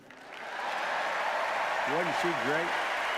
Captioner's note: applause